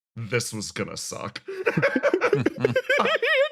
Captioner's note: laughs